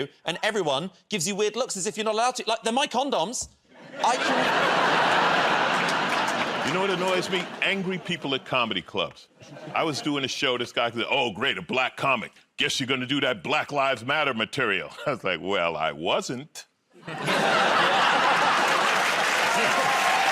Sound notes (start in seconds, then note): 17.0 laughter